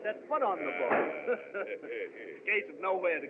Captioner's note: chuckles